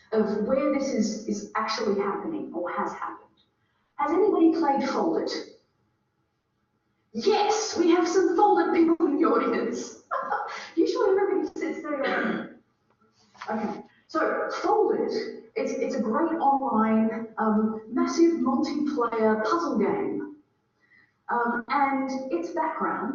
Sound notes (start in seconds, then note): 9.7 laughing